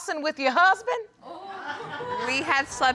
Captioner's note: audience exclaims